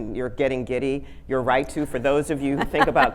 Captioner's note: audience laughing